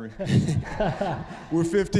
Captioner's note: audience laughing